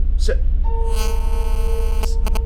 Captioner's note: buzzing